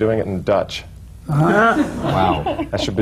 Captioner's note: laughter